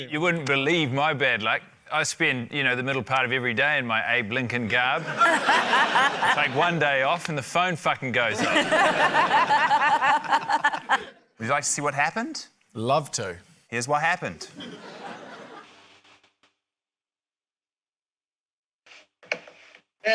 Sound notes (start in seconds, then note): 5.0 laughter; 8.3 laughter; 15.8 static hisses softly